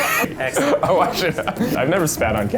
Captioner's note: laughing